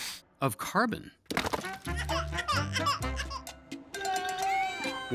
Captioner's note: baby crying